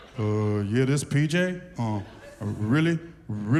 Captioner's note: laughter; deep voice